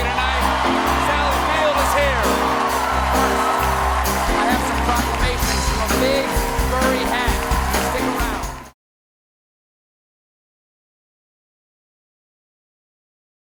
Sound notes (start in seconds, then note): 0.1 band playing; 5.4 cheers and applause